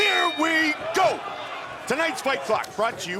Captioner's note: bell dings